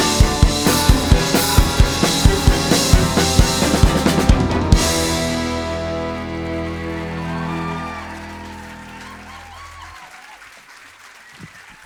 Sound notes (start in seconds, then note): 4.2 audience applauding